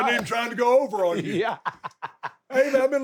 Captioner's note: Sami laughs